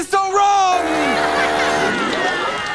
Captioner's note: buzzer